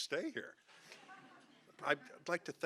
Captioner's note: audience laughing